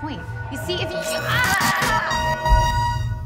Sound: screams; tense ominous music

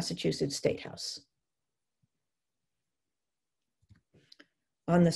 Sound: silence

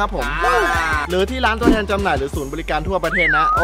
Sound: pat

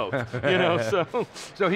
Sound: both laughing

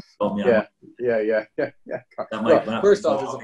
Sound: laughing

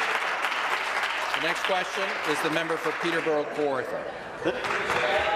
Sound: applause

